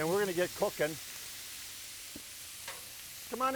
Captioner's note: oil sizzling